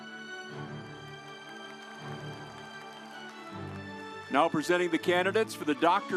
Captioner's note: audience applauds